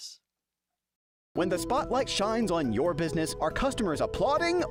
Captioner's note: voiceover